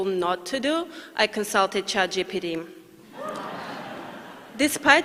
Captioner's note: laughter